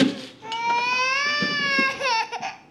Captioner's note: molly continues crying